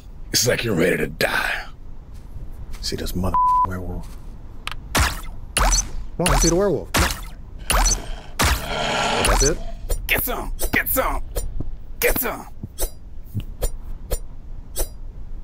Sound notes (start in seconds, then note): 3.3 beep; 4.9 shots pew